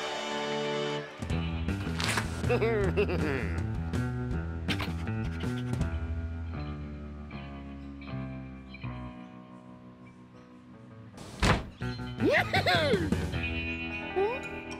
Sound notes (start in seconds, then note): 2.5 chuckles; 12.2 giggles